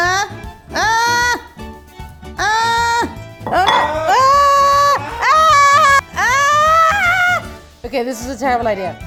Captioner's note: screaming